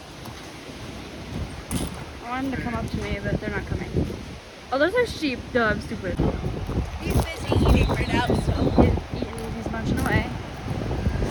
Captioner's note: background talking